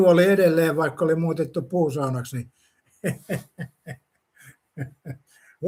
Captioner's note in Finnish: naurua